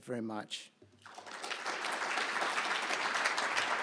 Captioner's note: applause